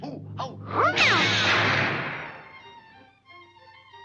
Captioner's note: neck creaks; air squealing; gentle bright music